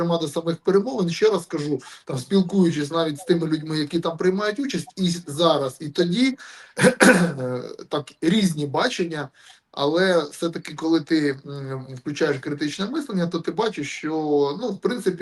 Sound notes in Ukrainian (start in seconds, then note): 6.8 прочищення горла